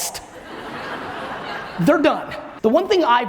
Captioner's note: audience laughs